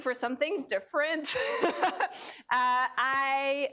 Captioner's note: laughs